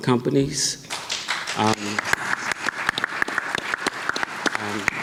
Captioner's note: audience clapping